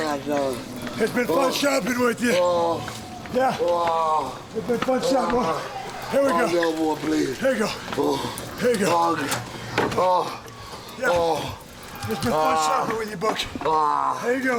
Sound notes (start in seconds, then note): none